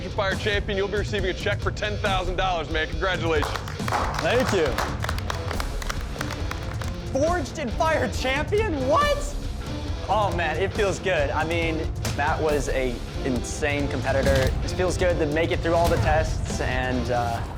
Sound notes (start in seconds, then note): 3.4 clapping